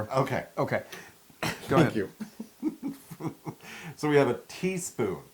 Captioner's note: laugh